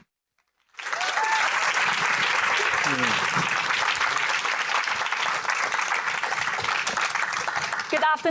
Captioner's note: applauding